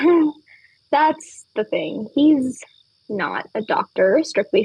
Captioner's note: laughs